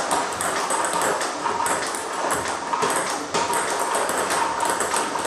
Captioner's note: ball ping pong hitting continues